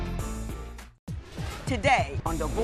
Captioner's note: none